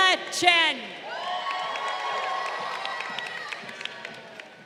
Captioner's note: crowd cheering